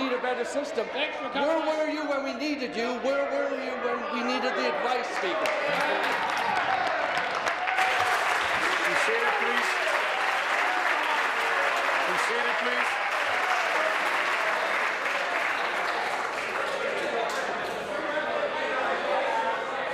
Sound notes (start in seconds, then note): 13.2 applause